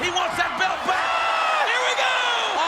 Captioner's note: audience cheers